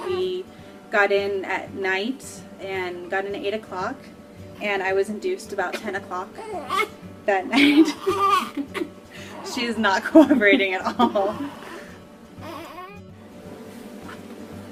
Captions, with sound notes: We got in at night, and got in at 8 o'clock, and I was induced about 10 o'clock that night. (baby cooing) (laughing) She is not cooperating at all.